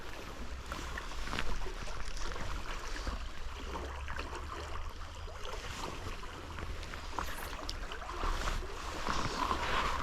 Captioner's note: water sounds